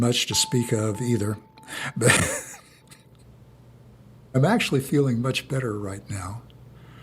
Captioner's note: laughs